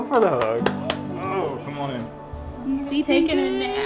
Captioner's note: hands slapping